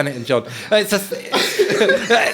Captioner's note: all laughing